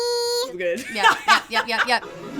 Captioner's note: laughs